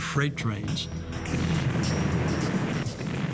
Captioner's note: gunfire